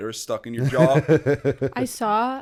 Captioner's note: chuckle